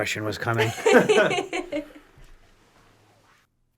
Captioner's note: all laugh